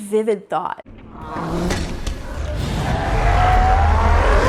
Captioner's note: growling